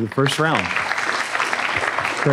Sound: applause

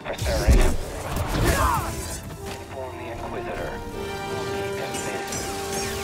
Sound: scream

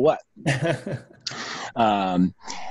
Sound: laughs

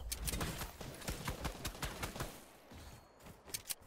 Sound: guns banging

